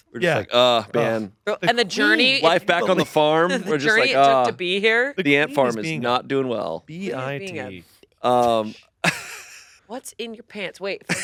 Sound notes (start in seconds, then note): 3.9 groans